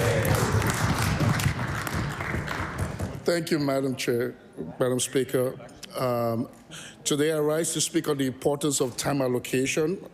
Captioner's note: cheering/Applause